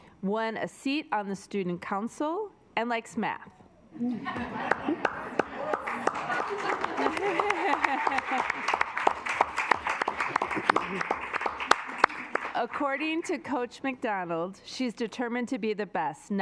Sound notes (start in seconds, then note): 3.7 assembly laughing; 4.6 assembly clapping